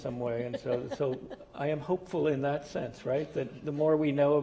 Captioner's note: laugh